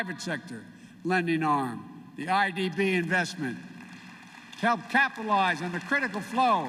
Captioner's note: applause